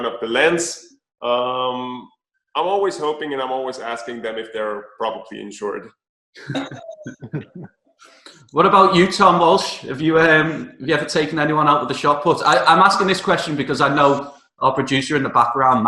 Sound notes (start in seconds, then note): 6.4 chuckling